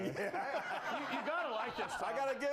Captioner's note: scattered laughs